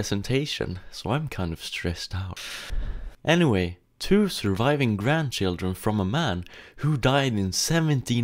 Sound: inhales and exhales

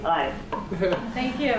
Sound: laughs

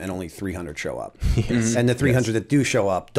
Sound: chuckle

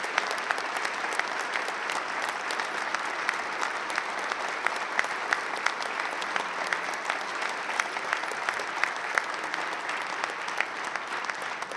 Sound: applause

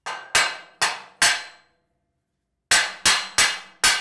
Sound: hammer clanging

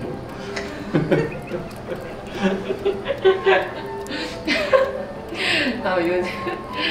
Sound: laughing

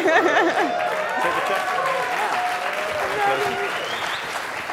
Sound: laughter; applause

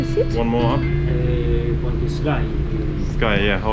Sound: speaks Italian

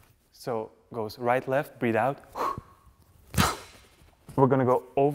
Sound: breathe in

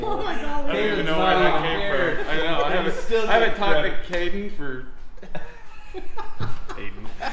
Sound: laughing

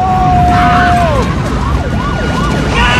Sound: screams; fire truck siren blaring

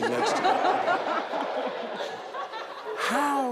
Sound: all laugh

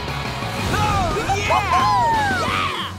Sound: cheering

